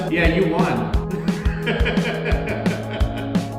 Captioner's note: laughing